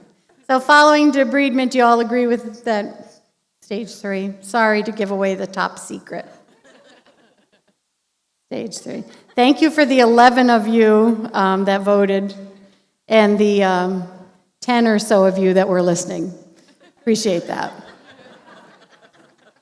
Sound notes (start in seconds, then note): 6.4 laughter